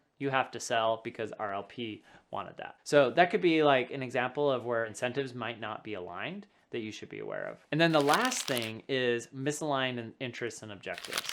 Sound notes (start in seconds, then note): 7.9 paper rubbing